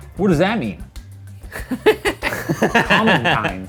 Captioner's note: laughs loudly